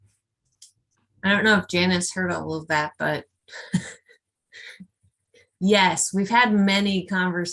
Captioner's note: chuckles